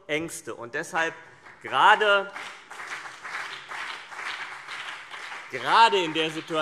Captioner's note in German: Beifall CDU und BÜNDNIS 90/DIE GRÜNEN